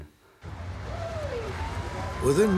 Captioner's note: sirens wailing